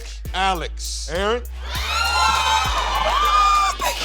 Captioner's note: cheering